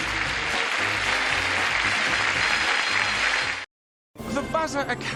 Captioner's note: applause